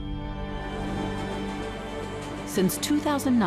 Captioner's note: train rumbling